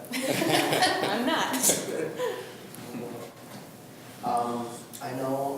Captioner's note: group laughs